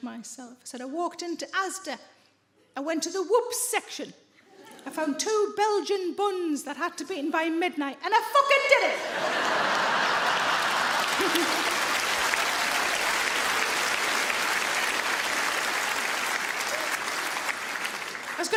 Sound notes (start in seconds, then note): 9.0 audience laughs; 9.1 audience applauds